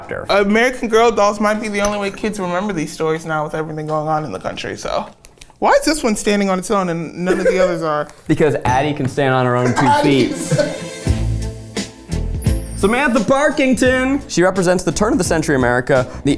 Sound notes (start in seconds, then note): 9.6 laughs; 9.7 upbeat music